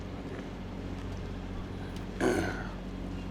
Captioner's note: clears throat